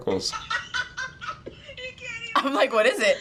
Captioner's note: teen laughing